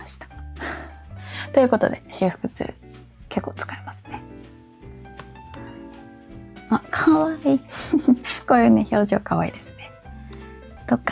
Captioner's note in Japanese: 息をのむ音